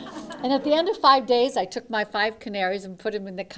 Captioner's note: laughter